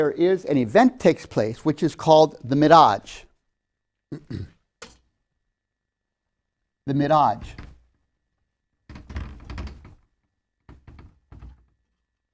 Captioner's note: clears throat